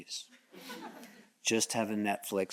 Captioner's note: audience chuckles